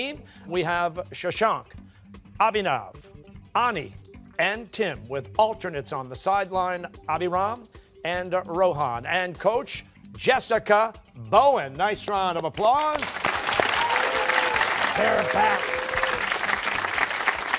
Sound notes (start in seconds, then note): 12.8 cheers and applause